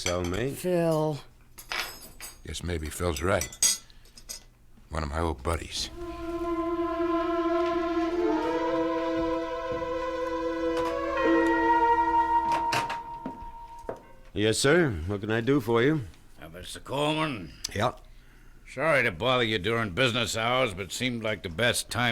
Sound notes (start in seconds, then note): 7.9 dramatic music playing; 12.4 door opens; 12.4 doorbell rings